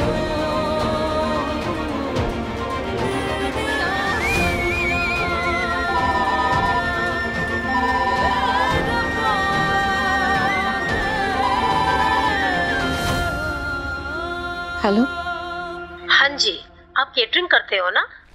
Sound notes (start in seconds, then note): 5.8 mobile phone ringing